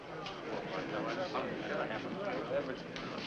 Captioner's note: men murmuring